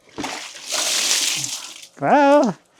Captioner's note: water splashes